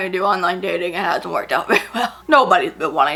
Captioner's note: laughs